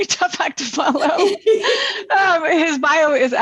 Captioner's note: laughter